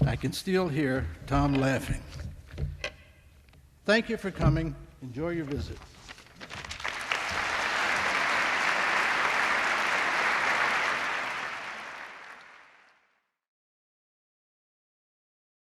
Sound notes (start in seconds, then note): 6.5 applause